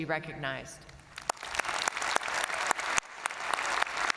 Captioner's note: all applauding